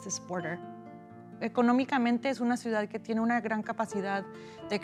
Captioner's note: speaking spanish